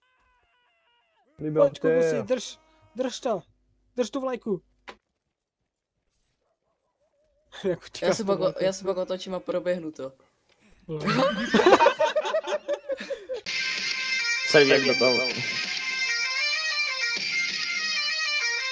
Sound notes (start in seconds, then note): 11.0 laughter